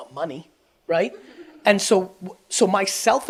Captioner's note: audience laughs